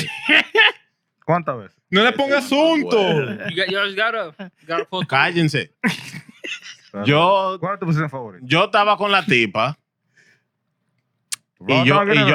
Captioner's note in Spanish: Hablando en idioma extranjero; Riendo; Hablando en idioma extranjero